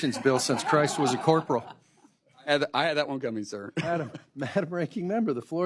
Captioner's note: laughter